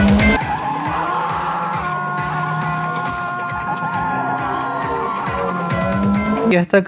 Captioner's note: best scream ever